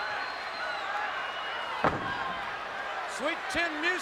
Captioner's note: crowd cheering